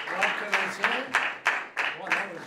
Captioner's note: applause